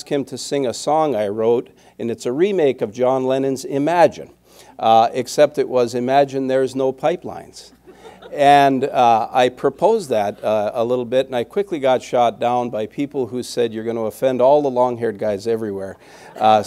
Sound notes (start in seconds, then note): 7.7 laughter